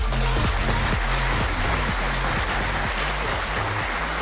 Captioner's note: audience applauding